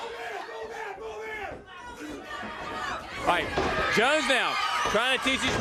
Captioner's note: crowd cheering; crowd chatter